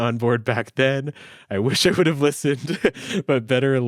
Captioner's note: chuckles